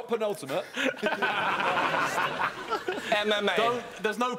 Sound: laughing

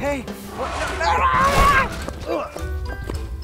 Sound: screams; grunts; tail thudding; whimsical music

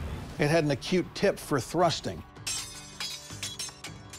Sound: swords clanging

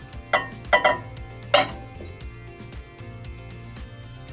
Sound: glass bowl clinking

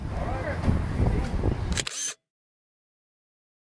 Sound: camera shutter clicks

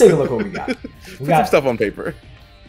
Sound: laugh

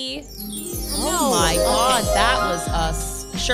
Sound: magical sound

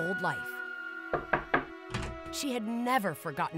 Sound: knocking

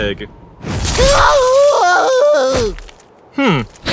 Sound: agonizing screams

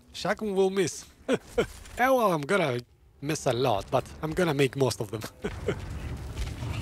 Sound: laughs

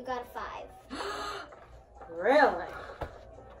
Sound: gasps

